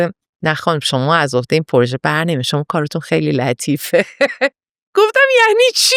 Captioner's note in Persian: خنده